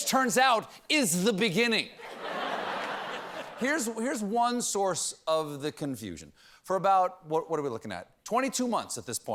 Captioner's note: laughter